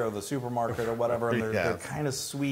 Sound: laugh

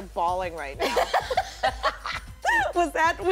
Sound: laughter

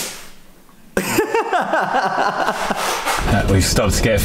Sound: happily laughing

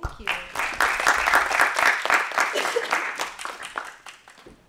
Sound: applause

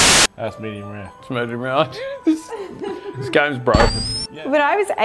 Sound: laughs

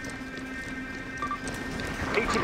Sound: device beeping

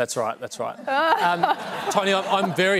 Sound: laughter

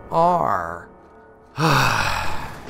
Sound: sigh

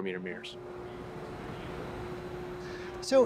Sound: engine humming

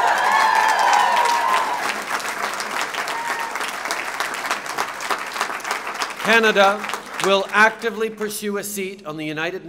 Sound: cheers and applause

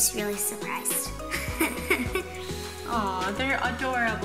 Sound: laughs

